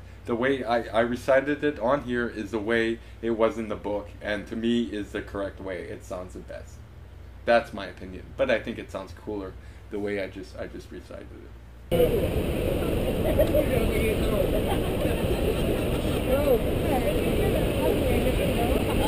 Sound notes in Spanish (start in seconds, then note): 11.9 Ruido cascada Loud